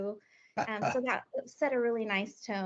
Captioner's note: laughing